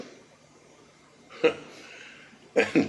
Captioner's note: chuckle